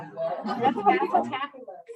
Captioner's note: laughter